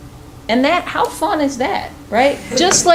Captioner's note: chuckling